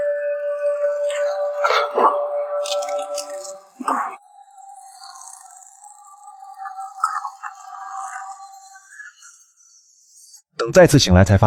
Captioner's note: cough cough cough